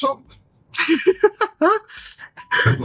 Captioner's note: laughter